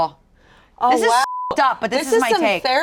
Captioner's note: beep